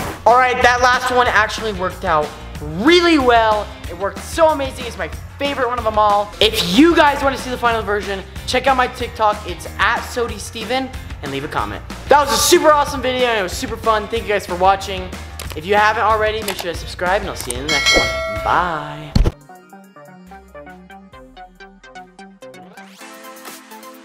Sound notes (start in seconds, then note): 17.6 bell rings; 20.5 upbeat music playing